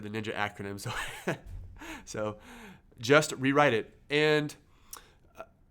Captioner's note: laughs